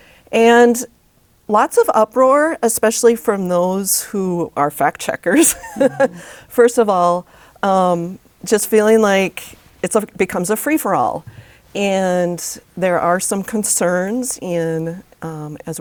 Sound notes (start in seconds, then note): 5.4 laughs